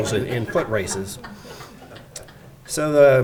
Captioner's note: audience laughing